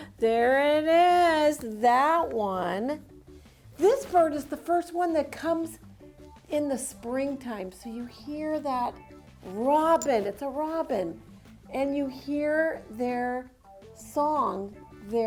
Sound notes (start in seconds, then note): none